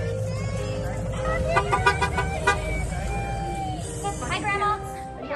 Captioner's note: horn honking